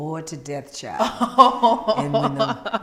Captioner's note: laughing